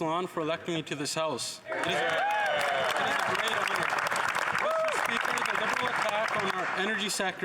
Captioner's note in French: voix de l'interprète